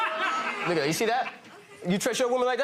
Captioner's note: audience laughing